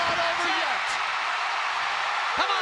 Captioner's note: crowd cheering